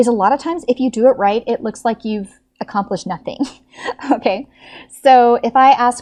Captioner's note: laughs